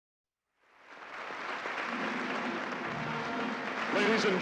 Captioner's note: applause